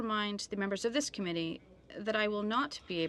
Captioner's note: speaking in french